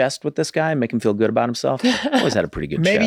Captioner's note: laughs